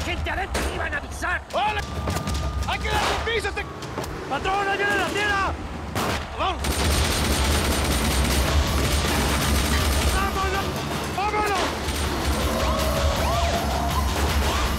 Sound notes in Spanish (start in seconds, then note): 7.8 Disparos; 12.3 Sirenas